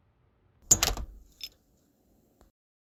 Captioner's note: door clicks shut